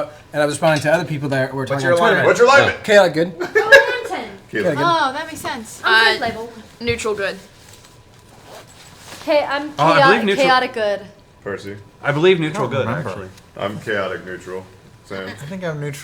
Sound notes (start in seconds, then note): 3.4 laughs